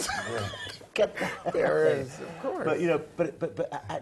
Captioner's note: laugh